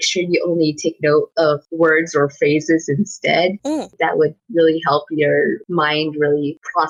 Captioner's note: inquisitive noise